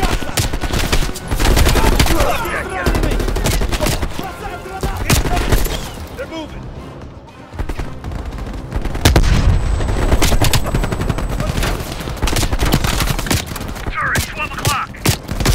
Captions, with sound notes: (gunshots) - They're moving! (gunshots) - Turret, 12 o'clock!